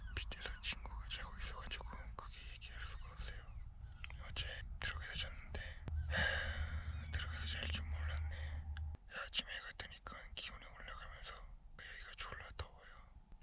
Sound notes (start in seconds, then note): 6.1 sigh